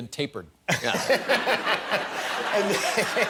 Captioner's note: laughter